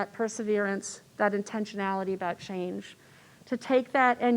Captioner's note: none